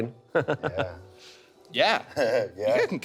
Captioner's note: Carlisle laughing